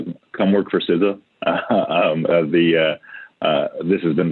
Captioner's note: chuckles